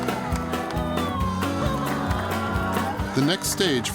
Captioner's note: crowd awing